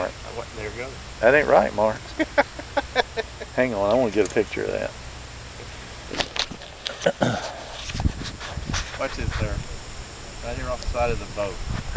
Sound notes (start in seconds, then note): 2.0 chuckling